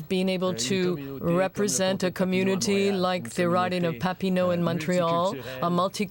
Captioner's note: speaking French